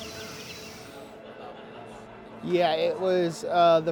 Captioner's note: birds chirping; people chattering